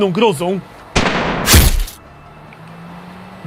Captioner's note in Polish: wystrzał, uderzenie pocisku